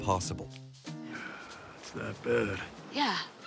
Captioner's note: sigh